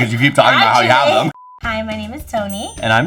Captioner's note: beep